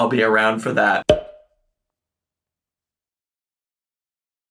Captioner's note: pops